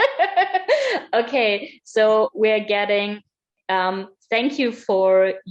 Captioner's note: laughs